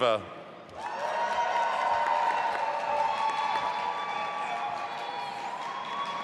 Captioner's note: audience applauding and cheering